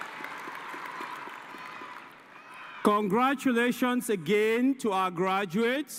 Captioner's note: cheers and applause